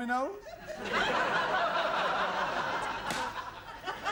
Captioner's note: laughter